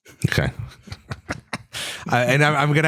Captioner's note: laughs